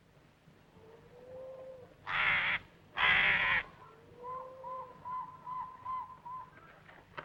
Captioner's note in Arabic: نعيق البومة; نعيق الطير